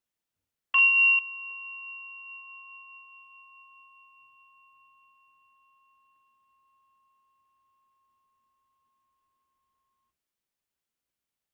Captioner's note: bell